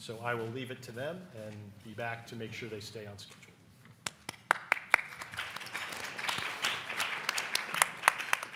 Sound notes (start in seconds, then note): 4.1 audience applauding